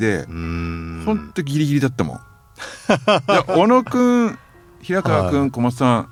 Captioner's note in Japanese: 笑い